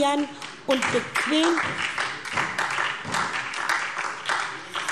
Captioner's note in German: Beifall SPD